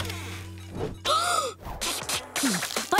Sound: gasping

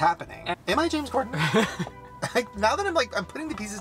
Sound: Ryland laughs

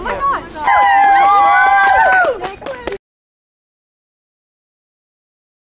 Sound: all cheering

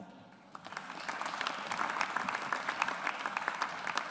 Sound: audience applauds

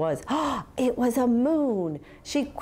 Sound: gasping

